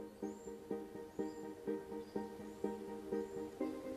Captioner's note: birds chirping